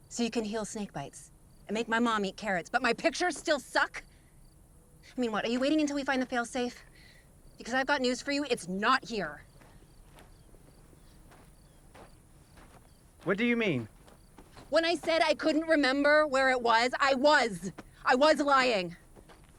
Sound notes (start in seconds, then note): none